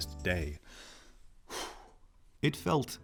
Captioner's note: deep breath